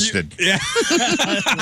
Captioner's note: laugh